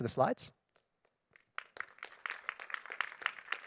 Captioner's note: applause